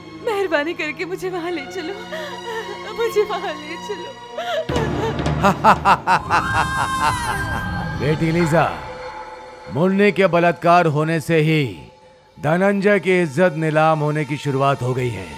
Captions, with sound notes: Please take me there. Please take me there once. [Crying] [Laughs] The reputation of Roy family is on the downhill.. ..after their maid got raped.